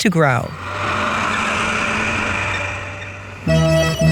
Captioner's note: tractor engine